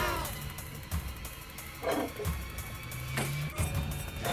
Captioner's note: robot makes sounds